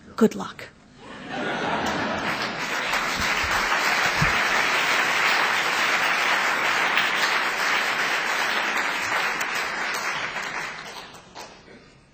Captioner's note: laughter; applause